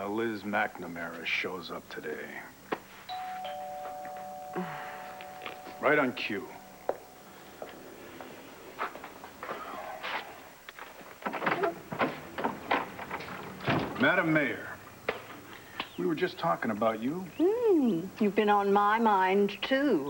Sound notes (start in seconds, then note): 3.1 doorbl rings